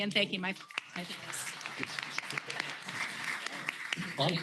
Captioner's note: applause